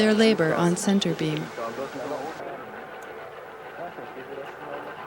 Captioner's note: german and french speaking